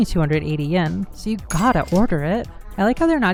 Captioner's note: cash register